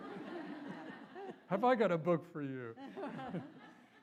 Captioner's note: laughter